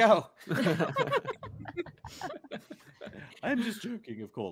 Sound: multiple chuckling

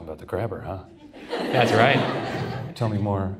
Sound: audience laughs

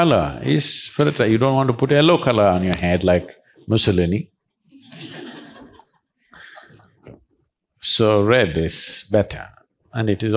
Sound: laughter

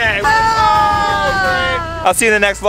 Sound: group screams

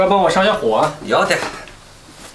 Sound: with local accent

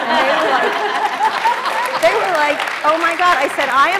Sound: applause and laughter

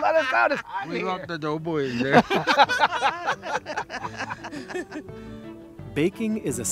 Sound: laughing; all laughing

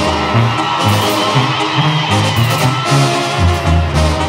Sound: gritos

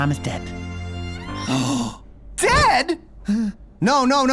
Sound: gasps

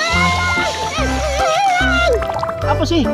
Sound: applause

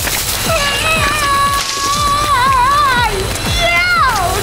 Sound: woman screaming

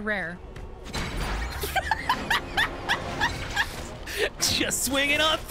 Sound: laughing

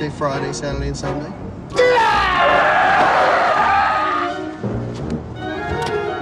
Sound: Monika screams angrily

